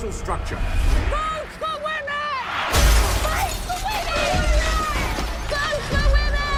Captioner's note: woman's voice, yelling